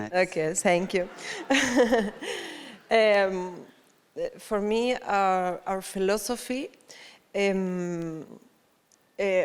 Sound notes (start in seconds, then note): 0.8 audience laughs; 0.8 laughs